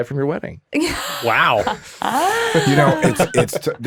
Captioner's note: laughing